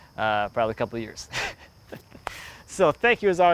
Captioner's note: laughs